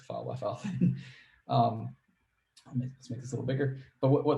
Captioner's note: laughs